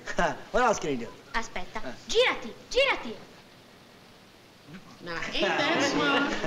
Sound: non-english

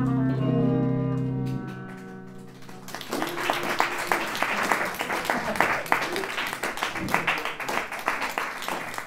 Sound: applause

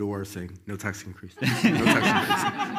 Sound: all laugh loudly

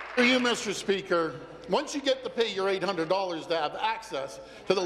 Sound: some Applause

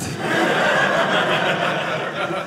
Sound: audience laughing

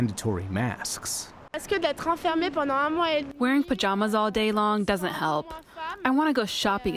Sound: through translator

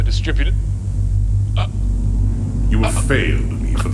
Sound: gagging

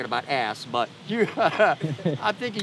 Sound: laughter

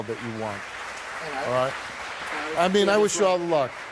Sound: audience applause

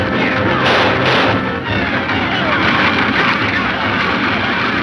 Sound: men yelling; shots fire

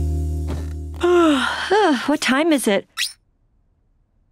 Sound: yawning

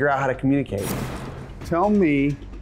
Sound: whooshing

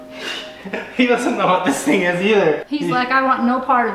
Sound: laughs

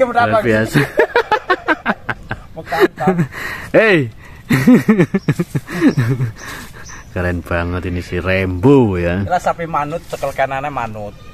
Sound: laughs

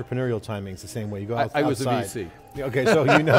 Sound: laughing

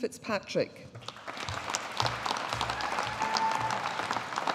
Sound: audience applauding

